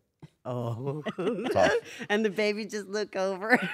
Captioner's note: laugh; laugh